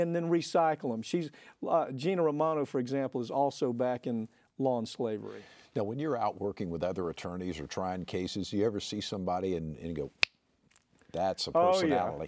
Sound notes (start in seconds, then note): 10.2 fingers snap